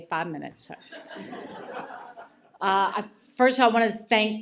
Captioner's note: laughter